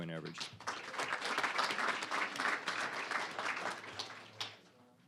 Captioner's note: applause